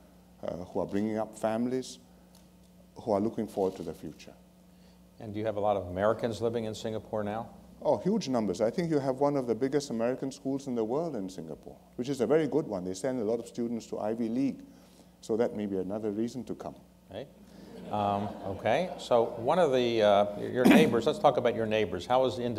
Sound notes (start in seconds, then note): 17.6 laughter